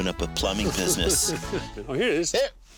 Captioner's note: laughing